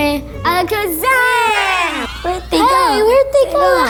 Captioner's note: magical trill